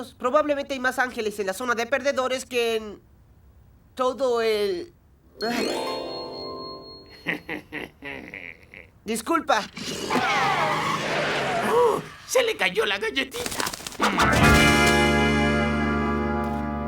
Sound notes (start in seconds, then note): 11.7 gasping